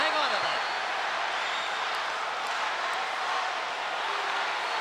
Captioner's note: crowd yelling